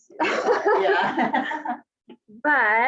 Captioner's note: laughs